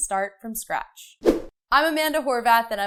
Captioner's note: swoosh